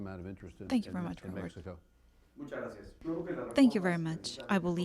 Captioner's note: through translator